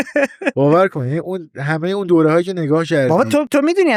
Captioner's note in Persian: خنده